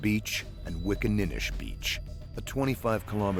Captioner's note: voiceover